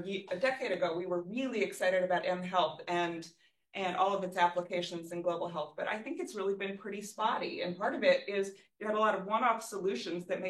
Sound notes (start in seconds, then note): none